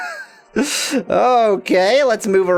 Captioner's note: laughs